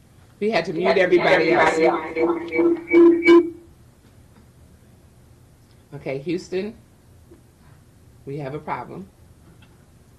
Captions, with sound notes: We had to meet everybody. (radio echoing) Okay Houston. We have a problem